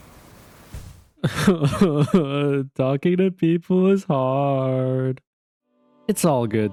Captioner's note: sobs